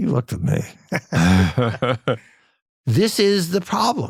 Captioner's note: laugh